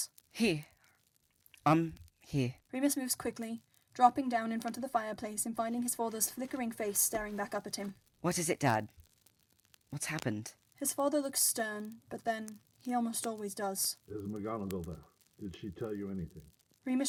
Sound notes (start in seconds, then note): 4.2 rustling